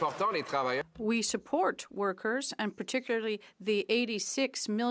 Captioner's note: some Applause